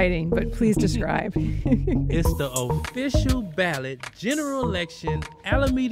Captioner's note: both laugh